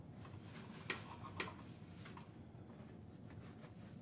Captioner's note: rubbing sound